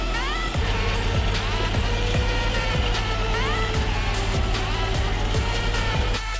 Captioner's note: engine revving laboriously